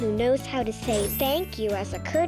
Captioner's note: sparkling sound